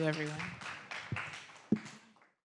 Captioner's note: audience applauds